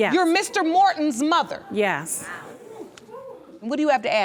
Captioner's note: audience murmuring